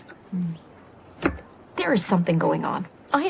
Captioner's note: slaps table